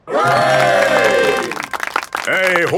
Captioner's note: clapping